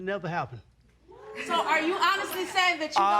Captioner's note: audience laughing